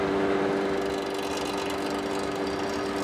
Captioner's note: rattling